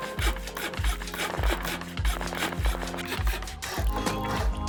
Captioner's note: rapid construction sounds